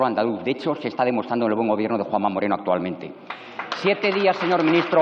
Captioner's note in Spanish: Aplausos